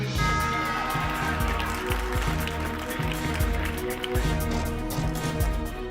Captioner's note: cheering; tense music intensifies